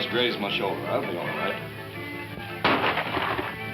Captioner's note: gunshots